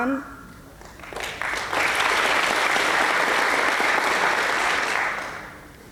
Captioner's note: applause